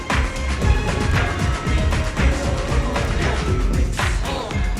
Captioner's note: audience cheering